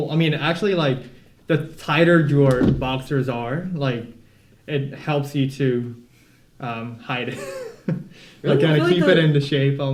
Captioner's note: laughter